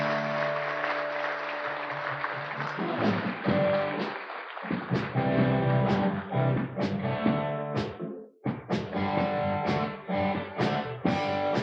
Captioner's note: applause